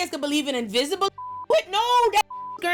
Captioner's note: beep